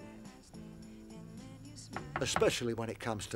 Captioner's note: knocking on door